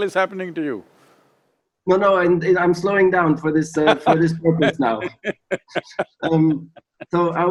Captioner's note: Sadhguru laughs